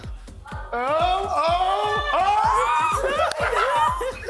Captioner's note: shouting